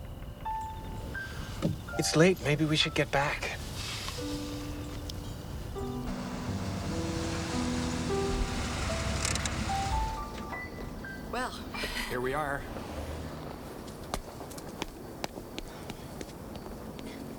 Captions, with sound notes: - It's late. Maybe we should get back. (engine rumbling) (park brake clicking) - Well, - Here we are. (feet shuffling)